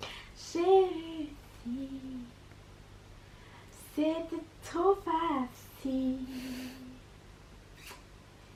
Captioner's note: singsong